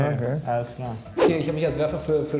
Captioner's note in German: woosh